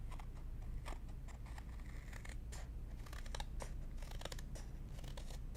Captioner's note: scissors snipping